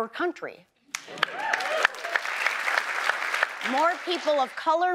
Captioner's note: audience applauds